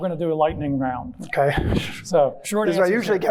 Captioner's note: chuckles